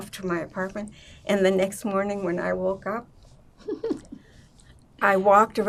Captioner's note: laughing